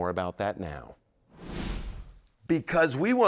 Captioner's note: whoosh sound